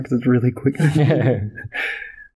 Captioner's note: laughter